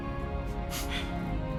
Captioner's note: Resopla